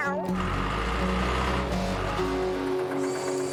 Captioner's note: engine Running